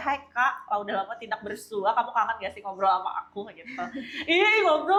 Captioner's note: laughs